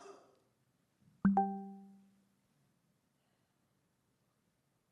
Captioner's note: computer chimes